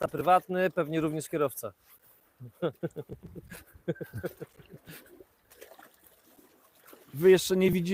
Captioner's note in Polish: śmiech